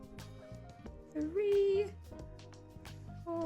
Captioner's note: quietly counting